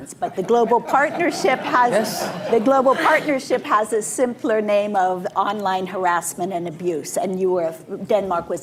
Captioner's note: laughter